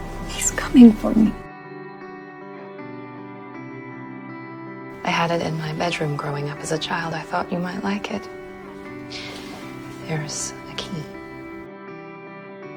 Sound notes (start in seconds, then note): 5.1 voiceover